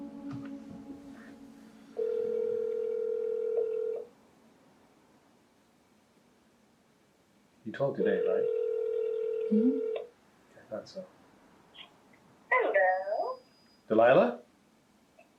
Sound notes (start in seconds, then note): 1.9 phone ringing